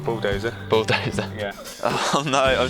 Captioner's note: laughs